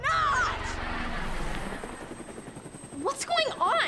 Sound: helicopter buzzing overhead

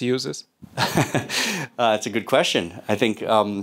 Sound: laughs

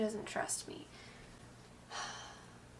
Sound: sigh

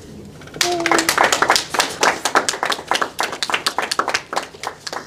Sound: attendees applauding

